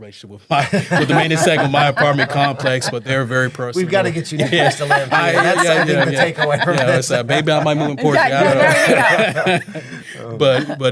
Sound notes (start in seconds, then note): 0.6 laughing; 3.8 laughing; 9.1 laughing